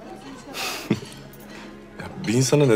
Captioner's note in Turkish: Gülme sesi